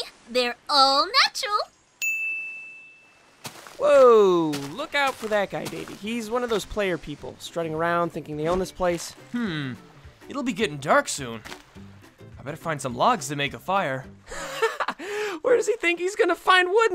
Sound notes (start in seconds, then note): 14.3 laughs